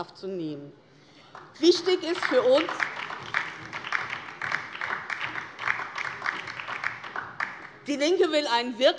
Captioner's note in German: Beifall DIE LINKE